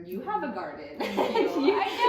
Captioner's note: laughs